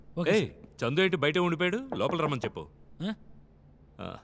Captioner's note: Knocks